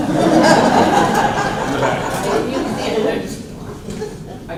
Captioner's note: laughter